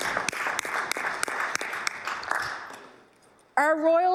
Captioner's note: applause